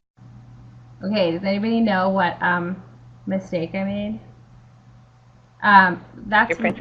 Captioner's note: voiceover